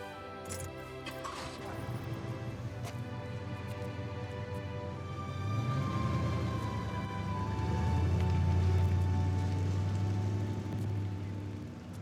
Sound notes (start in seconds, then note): 1.2 truck engine revving